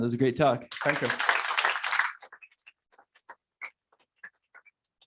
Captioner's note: applause